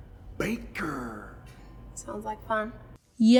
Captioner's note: chuckles